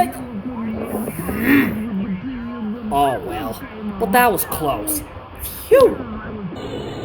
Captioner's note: growls